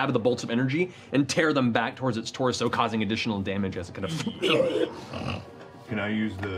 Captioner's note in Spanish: grito de dolor